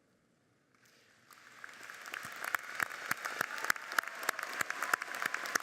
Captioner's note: audience applauds